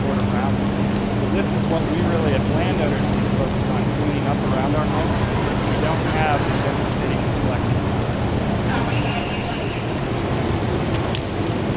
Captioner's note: machine blowing